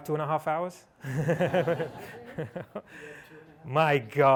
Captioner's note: laughter